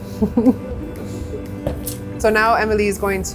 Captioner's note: laughs